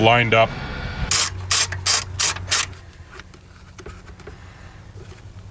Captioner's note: ratchet clicking